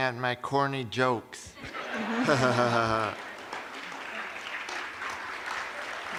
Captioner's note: laughter